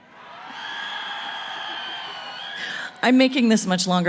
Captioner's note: cheering